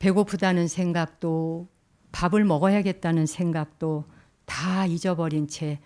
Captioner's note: speaking in Korean